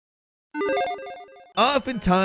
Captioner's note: game chimes